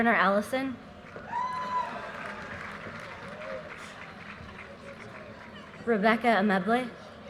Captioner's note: audience cheers and applause